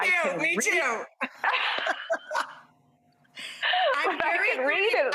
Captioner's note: both laughing